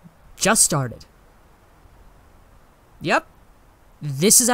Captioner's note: none